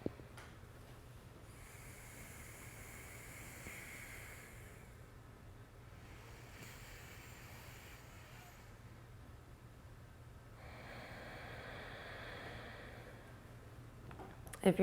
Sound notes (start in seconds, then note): 0.6 alternate nostril breathing